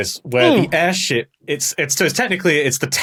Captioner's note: grunts